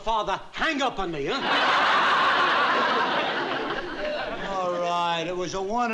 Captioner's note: laughter